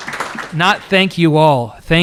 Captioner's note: applause